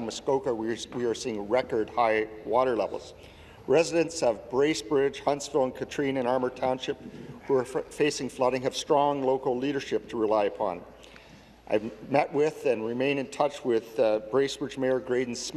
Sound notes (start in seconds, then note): none